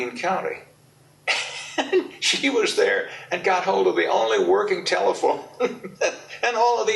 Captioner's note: laughs